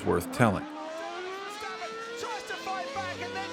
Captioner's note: f1 engine racing sounds